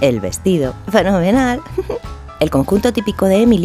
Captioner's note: giggle